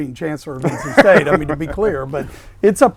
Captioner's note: laughing